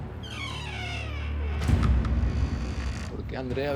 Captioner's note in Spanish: Chirrido de bisagras